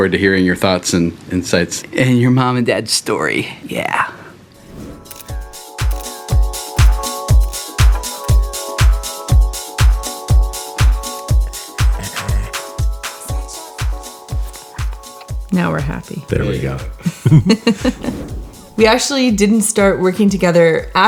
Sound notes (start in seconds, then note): 5.0 camera shuttering; 6.7 upbeat music; 16.8 all chuckle